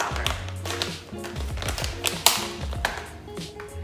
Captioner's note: package crinkling